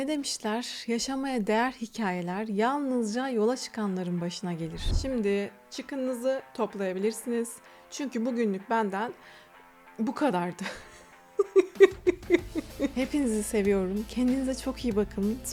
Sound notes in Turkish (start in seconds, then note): 11.3 kahkaha